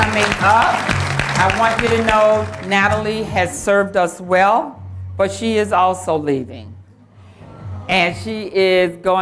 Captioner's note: applause